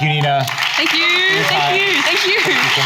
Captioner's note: audience applauds